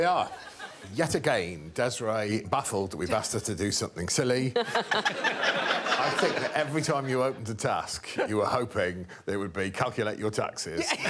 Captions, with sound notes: There we are yet again. Desiree baffled, we've asked her to do something silly. [all laughing] I think that every time you opened a task, you were hoping there would be calculate your taxes